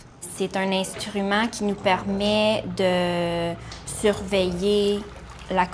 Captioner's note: speaking in a foreign language